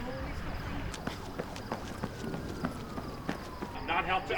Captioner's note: running footsteps